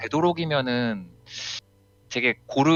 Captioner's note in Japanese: すーっ